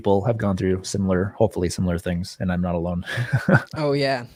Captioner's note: laughs